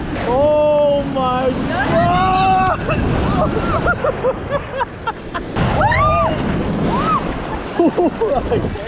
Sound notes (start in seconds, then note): 2.6 drowning/laughing noises; 4.7 screeching